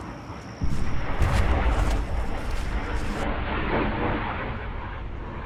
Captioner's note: adventurous orchestral music begins; sound of jets